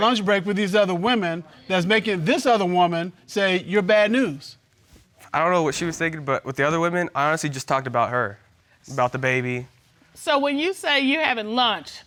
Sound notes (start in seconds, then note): none